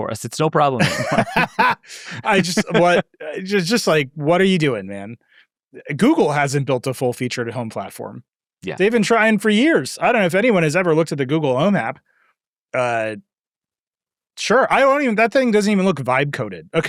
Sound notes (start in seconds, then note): 0.8 laughing